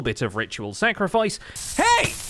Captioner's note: fire and damage noises